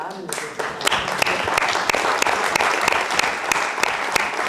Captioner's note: audience applauding